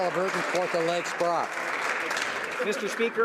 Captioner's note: some Applause